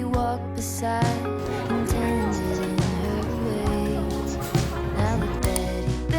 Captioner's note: laugh